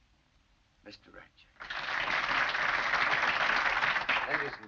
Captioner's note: applause